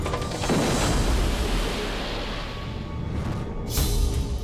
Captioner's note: explosion